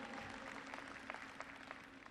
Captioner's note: applause